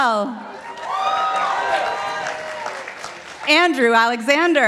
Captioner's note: participants applauding